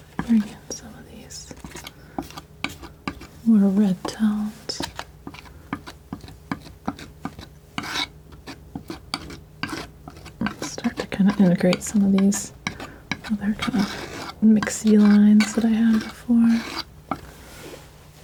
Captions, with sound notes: Bring in some of these more red tones. (scratching) Start to kind of integrate some of these other kind of mixy lines that I had before.